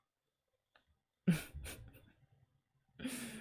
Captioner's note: chuckle